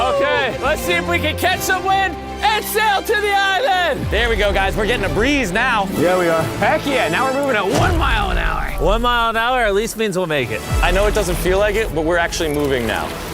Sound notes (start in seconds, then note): none